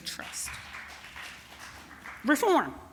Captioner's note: applause